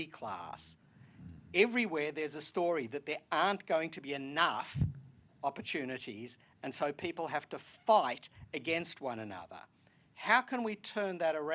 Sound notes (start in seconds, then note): none